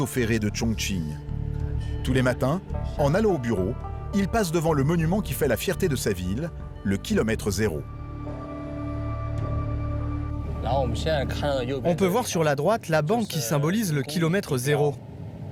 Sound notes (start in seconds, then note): 10.2 speaking foreign language